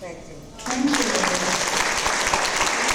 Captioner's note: audience applause